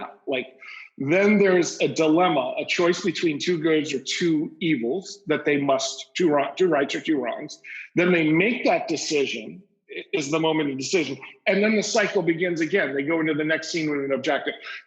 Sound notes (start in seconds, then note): none